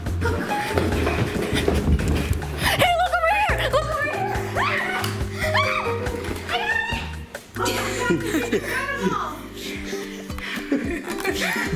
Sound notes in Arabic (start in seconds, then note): 5.4 صراخ; 9.3 يضحك